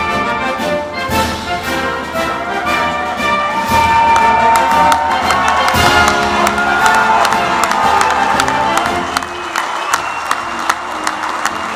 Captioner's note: applause